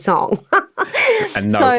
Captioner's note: laughs